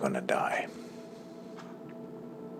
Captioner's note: takes a big sigh